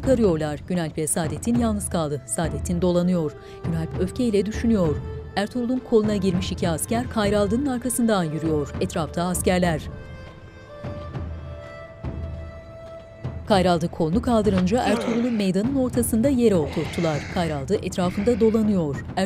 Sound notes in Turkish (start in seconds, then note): 0.1 Müzik - Gerilim; 16.5 İnleme sesi